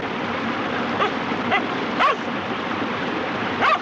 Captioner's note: barking